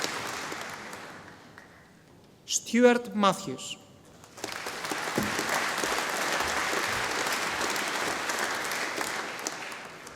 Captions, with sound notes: Stewart Matthews. (audience applauding)